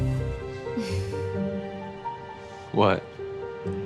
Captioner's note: Jordan sighs